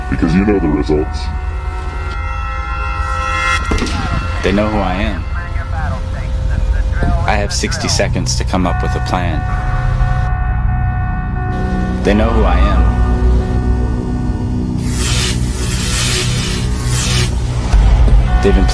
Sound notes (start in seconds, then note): 2.2 intense music; 3.6 gunshot blasting; 15.1 electricity zapping